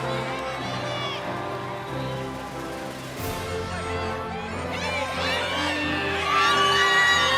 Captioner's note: cheering continues; inspirational music